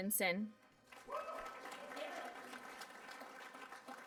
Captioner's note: applause